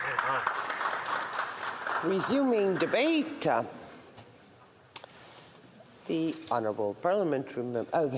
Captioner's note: applause